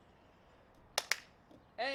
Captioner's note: clap